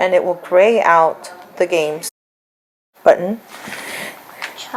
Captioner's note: child talks